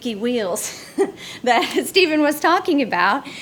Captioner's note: chuckles